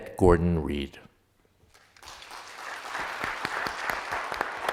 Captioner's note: applause